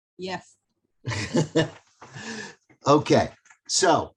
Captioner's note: laughs